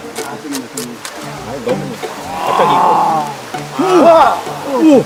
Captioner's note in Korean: 감탄